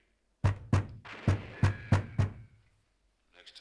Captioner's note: pounding on door over zinging bullets on TV